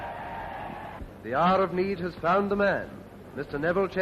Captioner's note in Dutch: menigte juicht